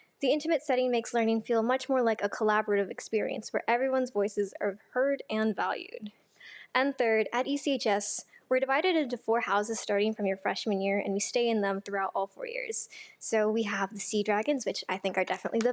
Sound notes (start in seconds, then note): none